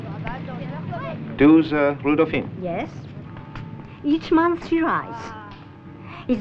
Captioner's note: foreign language audio